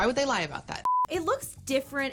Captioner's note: screen beeps